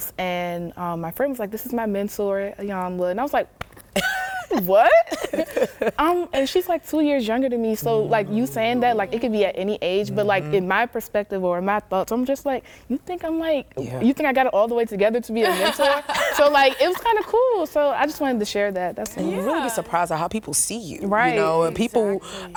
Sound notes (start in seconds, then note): 15.4 laughter